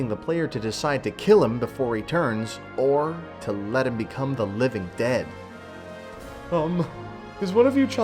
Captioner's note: sniffle